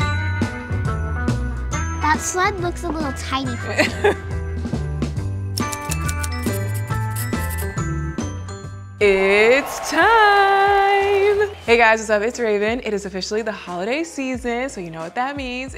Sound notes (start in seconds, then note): 3.7 laughing; 5.5 keys clacking; 9.0 audience applauding